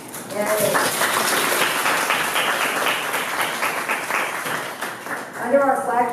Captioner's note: applause